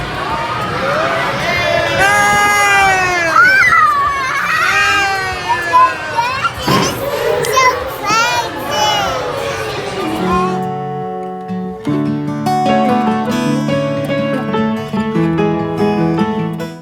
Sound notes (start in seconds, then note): 6.0 baby laughing; 12.8 soft music